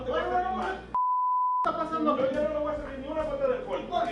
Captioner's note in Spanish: Bip